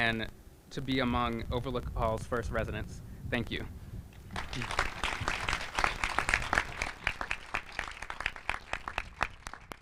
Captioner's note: applause